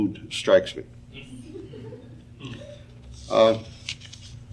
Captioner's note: audience laughing